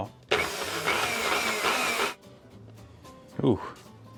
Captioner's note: Nutribullet churning